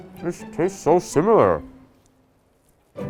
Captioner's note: speaking with mouthful